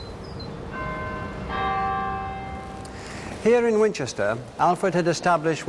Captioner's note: bells chiming